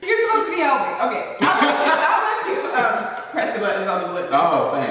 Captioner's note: laughs